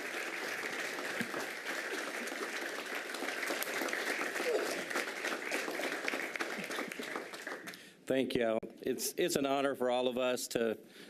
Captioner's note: applause